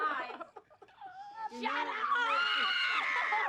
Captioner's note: scream